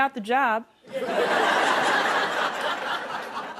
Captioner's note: laughter